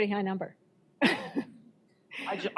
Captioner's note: chuckles